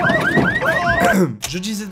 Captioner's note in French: Ahem